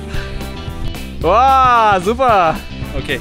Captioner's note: speaking German